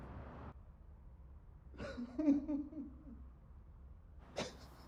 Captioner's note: man sobbing